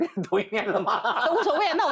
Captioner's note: laughing out loud